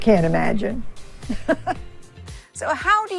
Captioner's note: Hilda chuckling